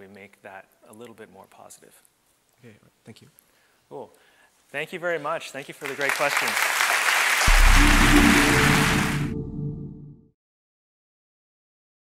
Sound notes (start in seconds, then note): 7.6 applause